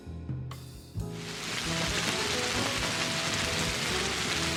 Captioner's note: rain trickling